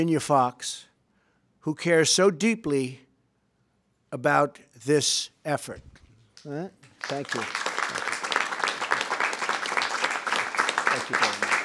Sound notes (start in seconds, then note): 6.9 applause